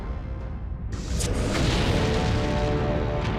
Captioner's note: explosion